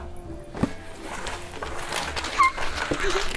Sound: papers rustling; squeals

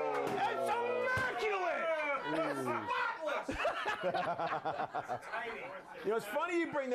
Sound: laughter

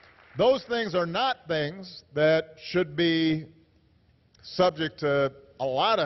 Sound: applause

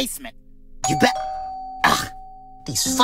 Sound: doorbell rings

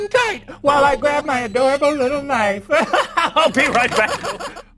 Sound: laughs

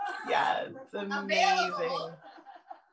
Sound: laughter

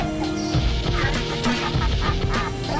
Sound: laughing heroically

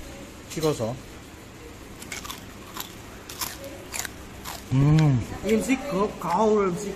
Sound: brilliant chewing technique

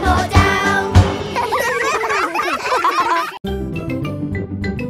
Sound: laughs

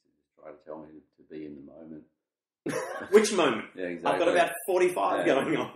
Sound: laughs

